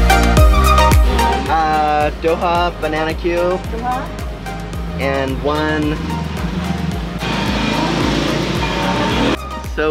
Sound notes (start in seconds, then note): 2.1 speaks foreign language; 3.9 sari-sari store attendant speaks foreign language; 7.5 motorbike engine revs